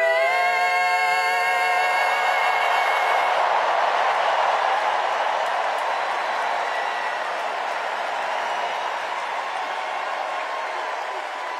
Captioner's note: cheers and applause